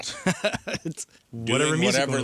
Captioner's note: laughs